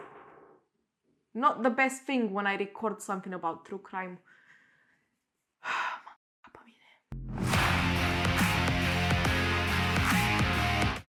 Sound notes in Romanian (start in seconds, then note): 10.0 Aplauze